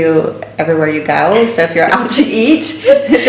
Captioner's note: laughing